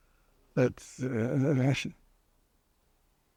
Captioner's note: laughing